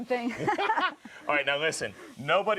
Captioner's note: both laughing